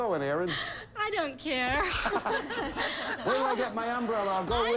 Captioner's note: audience laughing